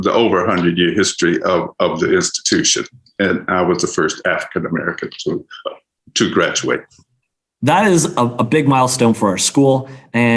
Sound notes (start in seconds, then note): none